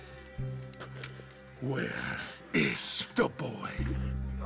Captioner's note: threatening